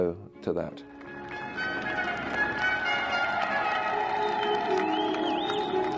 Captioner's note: crowd cheering; regal instrumental music